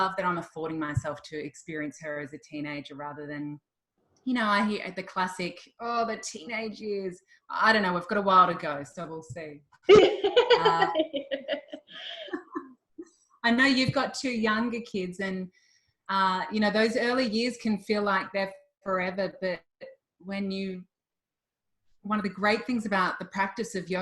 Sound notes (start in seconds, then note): 9.9 both laughing